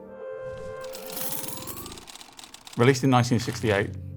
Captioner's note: film reel clicking